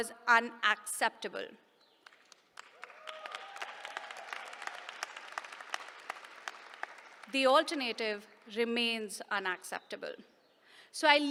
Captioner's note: applause